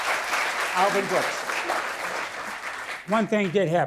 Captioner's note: audience applause